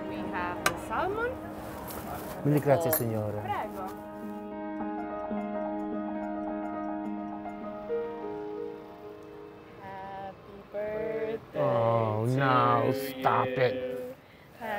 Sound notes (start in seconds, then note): 2.6 speaks Italian; 3.6 waitress speaks Italian; 4.9 mellow music